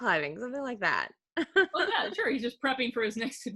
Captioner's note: laughing